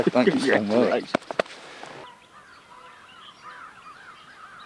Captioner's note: bird tweeting